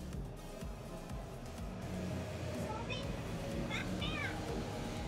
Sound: shrill sounds

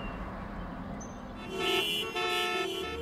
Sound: traffic noises

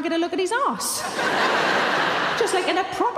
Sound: audience laughing

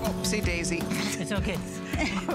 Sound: laughter

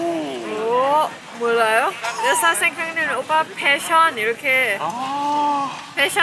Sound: laughing

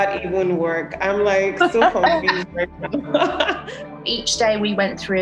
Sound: laughing

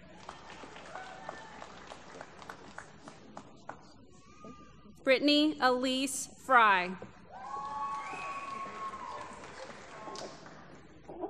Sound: applause

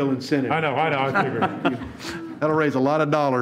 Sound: all laugh

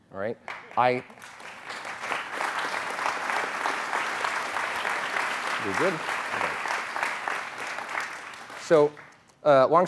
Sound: applause

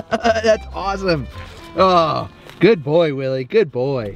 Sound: laughs

